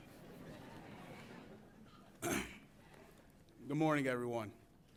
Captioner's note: audience laughs